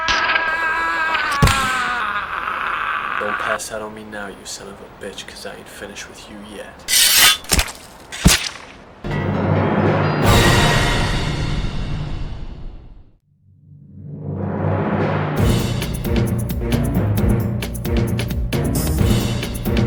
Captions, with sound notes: (Blood squelching) Don't pass out on me now, you son of a bitch, because I ain't finished with you yet. (Blade slicing) (Blood squelching) (Dramatic music) (Exciting beat music)